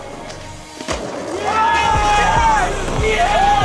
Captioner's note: cheering